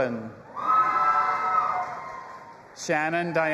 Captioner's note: audience applauding and cheering